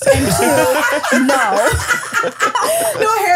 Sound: laughing

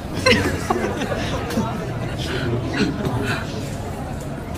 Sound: laughing

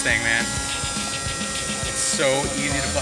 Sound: helicopter whirring

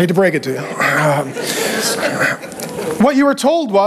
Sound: congregation chuckling

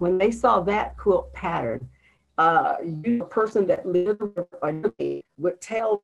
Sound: connection interference

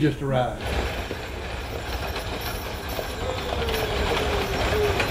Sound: wagon rattles

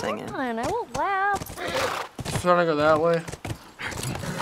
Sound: horse brays; horse brays

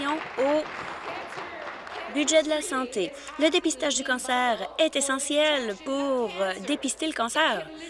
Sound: applause

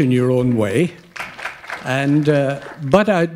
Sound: applause

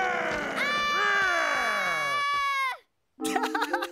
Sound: laughing

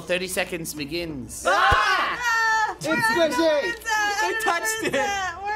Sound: yell

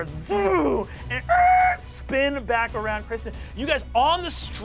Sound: mimics squealing tires

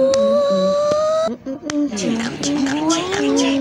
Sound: happily squealing

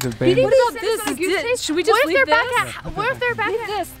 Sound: chatter

